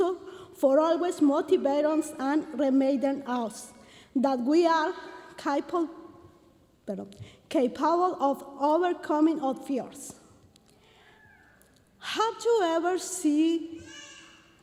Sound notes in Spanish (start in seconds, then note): 7.7 hablando en inglés